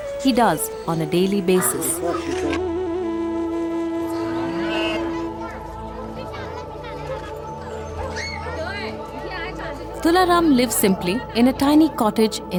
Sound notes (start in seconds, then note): 2.1 gentle music; 2.1 goat bleats